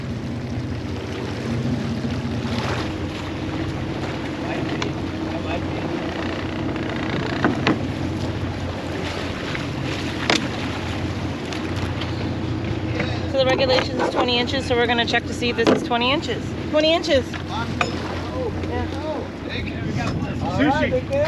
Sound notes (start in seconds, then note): 0.0 fish splashing; 7.4 thunk; 12.1 fish splashing; 19.5 background chatter